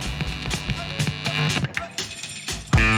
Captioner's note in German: Alter Radio-Sound